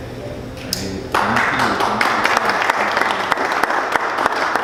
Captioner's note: clapping